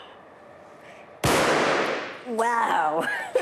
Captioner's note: bang